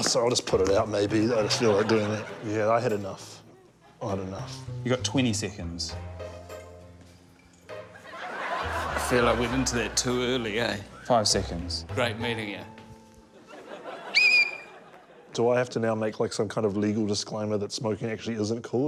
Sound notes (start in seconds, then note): 7.9 laughter; 13.3 laughter; 14.0 blows whistle